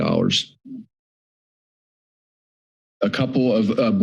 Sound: pause

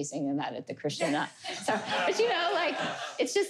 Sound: laughter

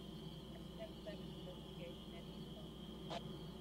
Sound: static Burst, Chatter On Police Radio

